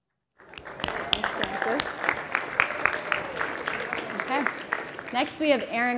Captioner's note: applause